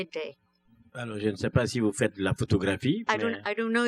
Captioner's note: speaking french